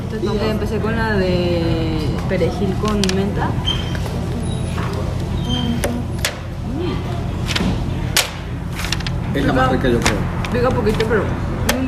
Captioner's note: laugh